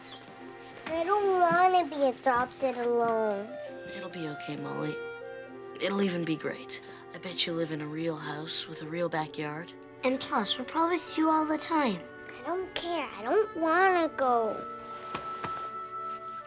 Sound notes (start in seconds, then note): none